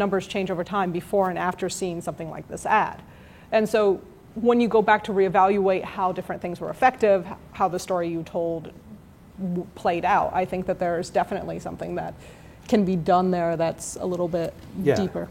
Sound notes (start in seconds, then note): none